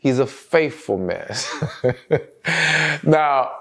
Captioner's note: laughs